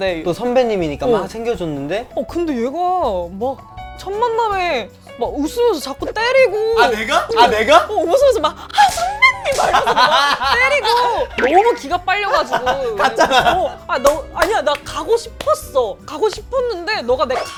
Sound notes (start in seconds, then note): 8.8 slap